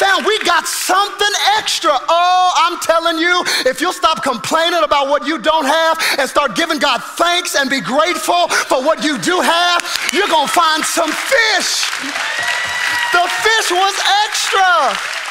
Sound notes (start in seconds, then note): 11.5 congregation applauding; 11.5 congregation cheering